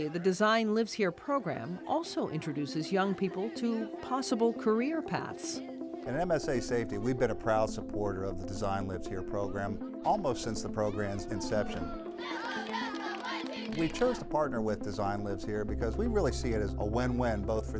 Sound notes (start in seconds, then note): 11.6 kids cheering